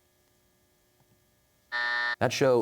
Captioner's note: buzzer